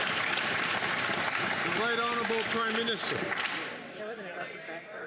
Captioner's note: some Applause